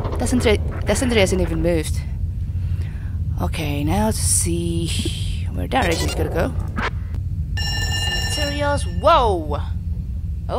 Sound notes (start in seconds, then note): 0.0 is that a pipe creak; 7.4 radiation noise alert